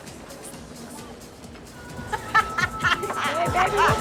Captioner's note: laughing